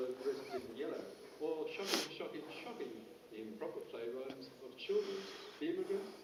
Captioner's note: indistinct conversation